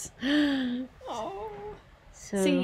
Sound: gasps

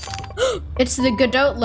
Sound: gasp

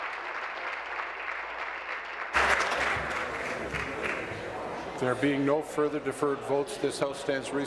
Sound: applause

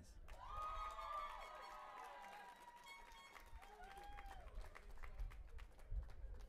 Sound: audience applauding and cheering

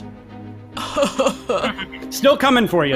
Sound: laughing

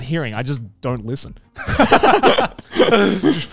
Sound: everyone laughs

